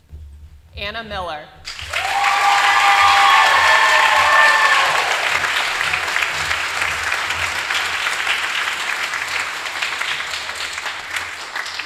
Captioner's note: applause